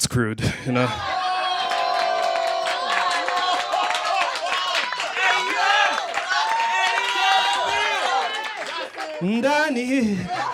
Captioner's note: laughter and applause